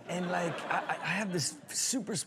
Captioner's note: audience laughs